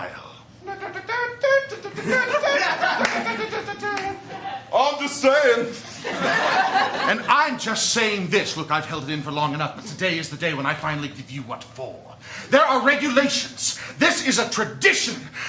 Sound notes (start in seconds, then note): 5.8 laughter